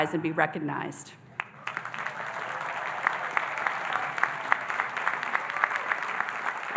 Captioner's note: audience applauding and cheering